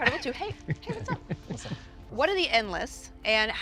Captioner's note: Tom chuckles